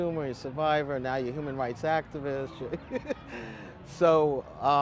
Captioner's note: laughs